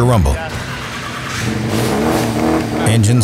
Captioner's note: engine rumbles